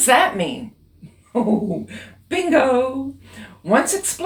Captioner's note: laugh